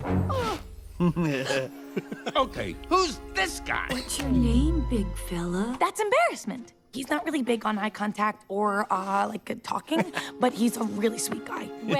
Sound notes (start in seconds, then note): 0.3 gasps